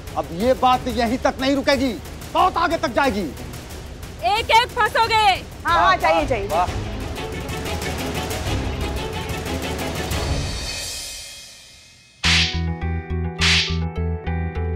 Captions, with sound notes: This won't end here. We'll make sure of that. All of you will go down. Alright, go on. [tense music] [slapping]